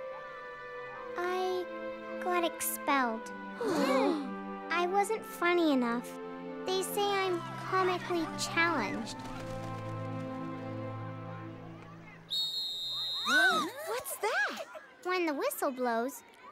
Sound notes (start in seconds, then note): 3.6 gasps; 12.2 whistle